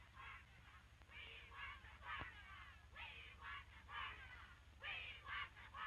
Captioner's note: chanting continues